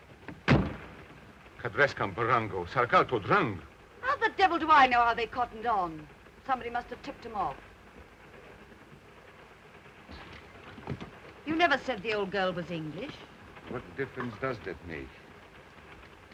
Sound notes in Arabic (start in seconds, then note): 0.3 يغلق الباب; 1.6 هارتز يتحدث لغة أجنبية